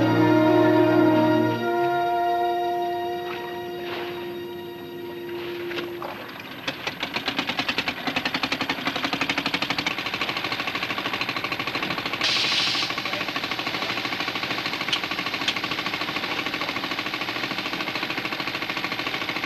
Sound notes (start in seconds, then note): 6.3 motor humming